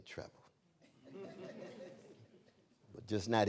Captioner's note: laughter